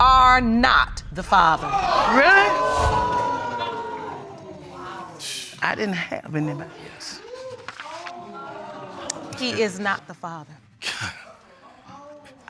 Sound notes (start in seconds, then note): 3.4 audience exclaiming